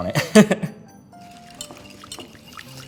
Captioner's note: chuckles